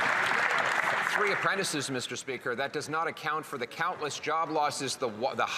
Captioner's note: some Applause